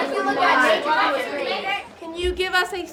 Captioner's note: students chattering